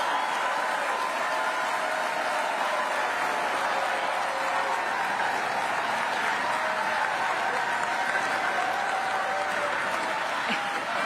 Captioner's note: cheering and applause